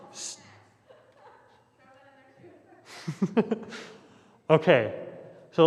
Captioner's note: laughs